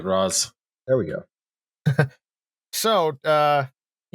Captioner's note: chuckles briefly